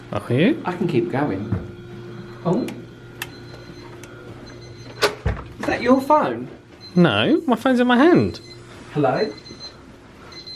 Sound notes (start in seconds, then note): 4.1 alarm beeping